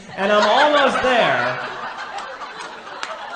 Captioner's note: audience laughs